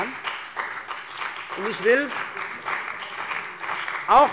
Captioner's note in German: Beifall bei der CDU und dem BÜNDNIS 90/DIE GRÜNEN